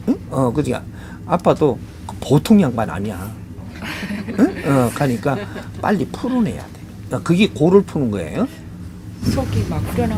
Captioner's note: audience laughs